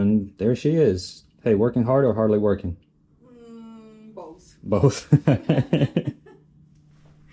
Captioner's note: laughter